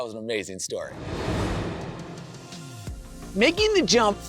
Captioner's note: transition whooshes